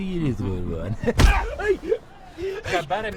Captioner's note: shouting, groaning